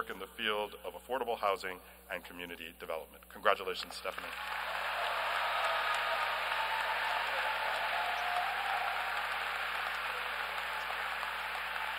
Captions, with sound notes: in the field of affordable housing and community development. Congratulations, Stephanie. [APPLAUSE]